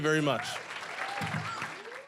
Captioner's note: applause